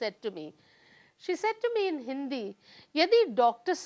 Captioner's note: speaking hindi